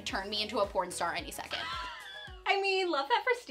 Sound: laughing

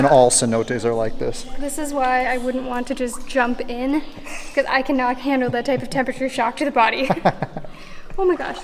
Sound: laughs

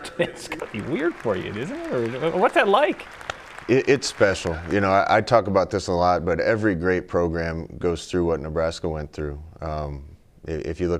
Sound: laughter

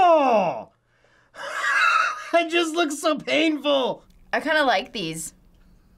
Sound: laughs

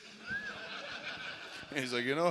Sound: laughter

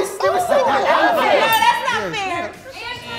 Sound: bell dings; bell dings

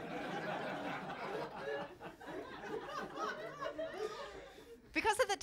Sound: laughter

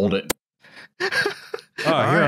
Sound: laughs

